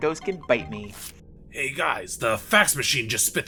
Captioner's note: paper rip